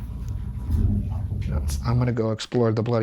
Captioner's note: voice whispering